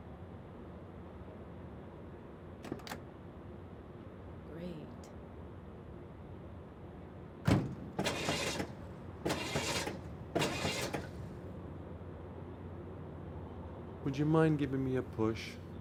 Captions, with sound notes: Great. (engine sputtering) - Would you mind giving me a push?